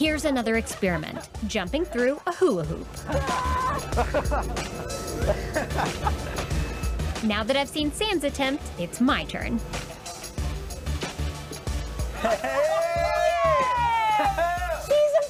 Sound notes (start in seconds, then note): 12.1 laughing